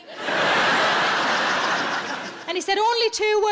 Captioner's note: audience laughing